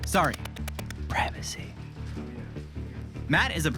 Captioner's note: whispering